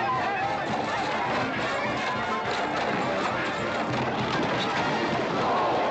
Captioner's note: cheering